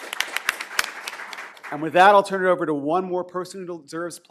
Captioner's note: applause